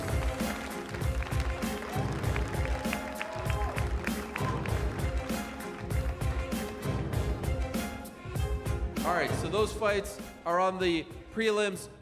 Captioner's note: cheers and applause